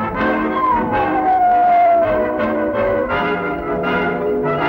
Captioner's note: howling